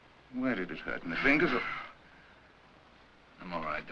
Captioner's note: Barney exhales